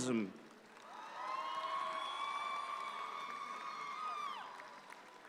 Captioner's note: audience applauds